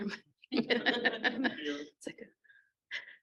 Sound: laughs

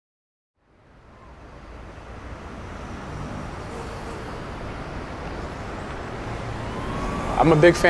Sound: street noises

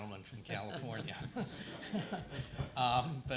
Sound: laughter

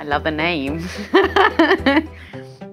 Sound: laughs

